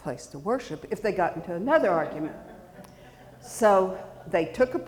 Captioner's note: audience chuckling